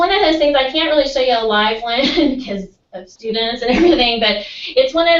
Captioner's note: laugh